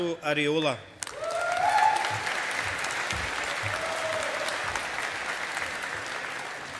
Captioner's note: audience applauding